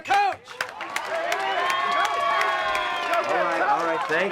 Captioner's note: diners applauding